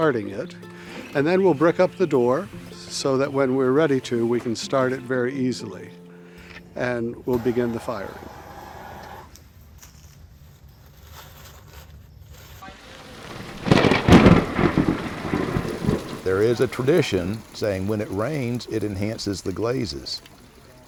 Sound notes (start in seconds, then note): 12.8 <i>thunder clap</i>